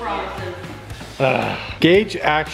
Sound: groaning

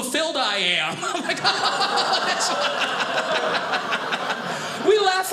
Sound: audience laughing

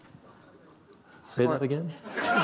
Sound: laughter

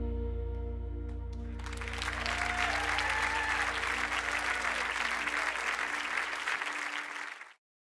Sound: clapping

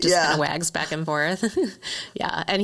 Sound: both laughing

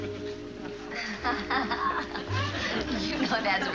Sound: Ann laughs

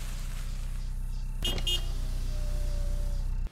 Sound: car honks

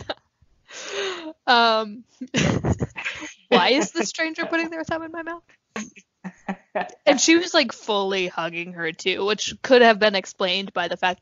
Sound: both laugh

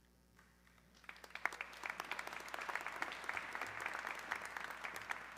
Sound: audience clapping

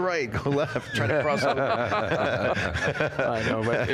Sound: all laughing

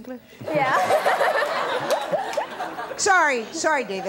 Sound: laughs

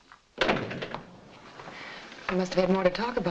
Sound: door thuds shut

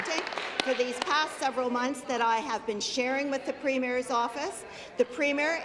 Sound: applause

